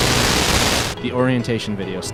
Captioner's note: bzzt!